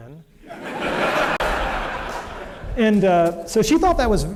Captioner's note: laughter